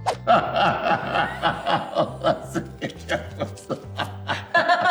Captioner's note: laugh